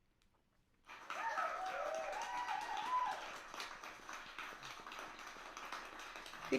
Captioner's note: applause and cheers